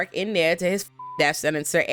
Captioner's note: beep